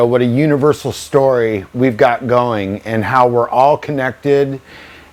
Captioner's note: none